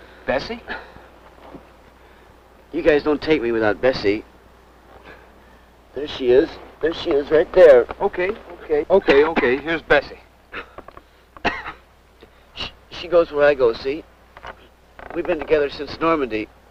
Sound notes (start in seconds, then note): 10.6 exhales; 11.4 cough